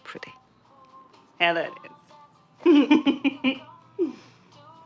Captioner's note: laughter